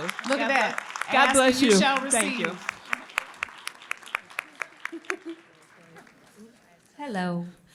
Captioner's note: applause